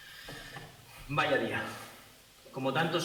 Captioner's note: Spanish